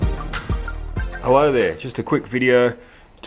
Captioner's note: voiceover